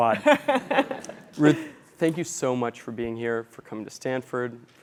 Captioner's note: laugh